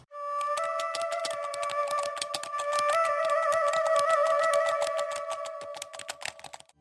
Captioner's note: eerie music; keys typing